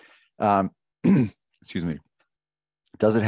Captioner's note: clears throat